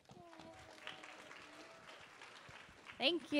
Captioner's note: applause